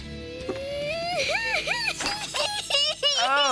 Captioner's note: Crying Spidey Fans